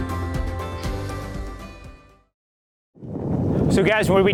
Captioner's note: wind